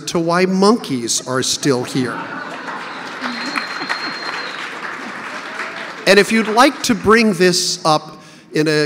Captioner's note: audience laughter, clapping